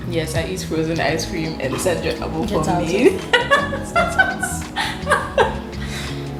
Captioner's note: laughs